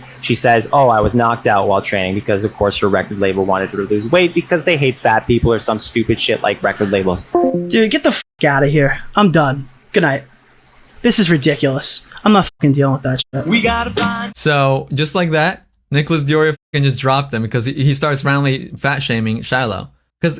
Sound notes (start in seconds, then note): 7.3 call ends